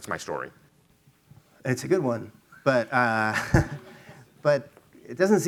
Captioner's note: chuckles